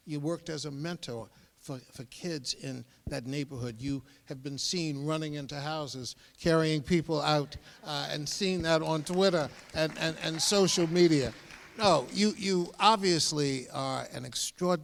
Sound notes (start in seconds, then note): 11.1 scattered applause